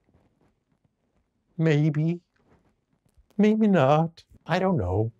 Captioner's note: with much emotion